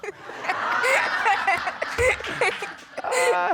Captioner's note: all laughing